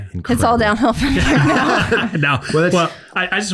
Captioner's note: all laughing